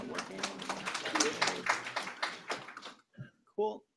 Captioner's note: applause